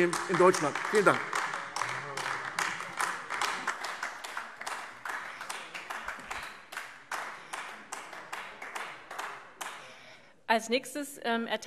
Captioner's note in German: Beifall AfD